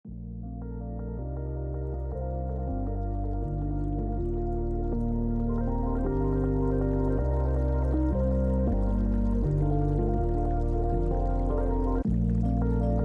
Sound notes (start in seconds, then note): 0.1 calming music; 0.1 water trickles